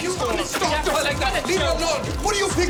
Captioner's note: arguing